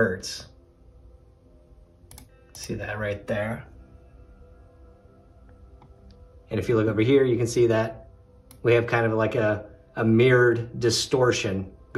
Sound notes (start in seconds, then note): 2.0 mouse clicks